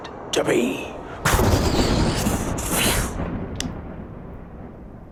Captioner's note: mimics thunder blast